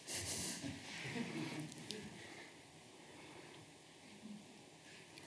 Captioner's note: audience laughs